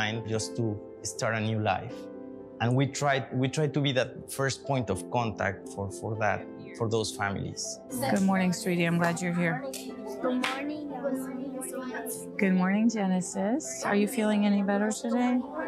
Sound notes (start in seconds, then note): 9.3 children chatter